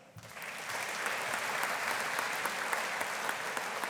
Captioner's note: audience applauding